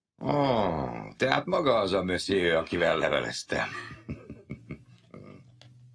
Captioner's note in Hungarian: kuncogás